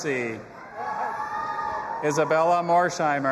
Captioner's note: audience applauding and cheering